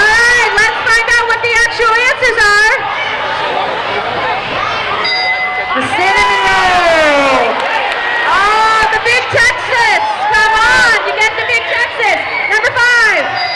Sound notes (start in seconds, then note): 5.0 dinging